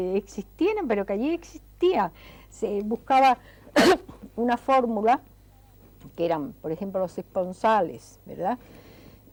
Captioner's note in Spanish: carraspeo